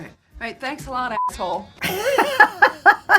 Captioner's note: beep; laughing